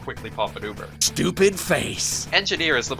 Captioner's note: texan insult noises